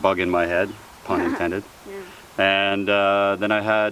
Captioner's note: laughs